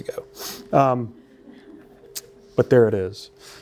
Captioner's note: laughter